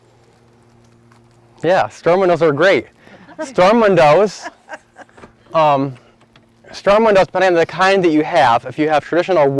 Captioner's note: laughter